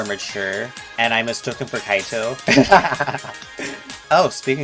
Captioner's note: laughs nerdily